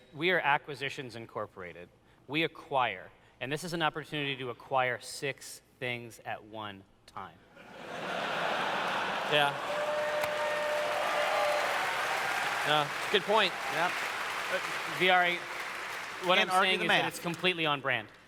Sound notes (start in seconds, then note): 7.6 laughter; 9.9 audience cheers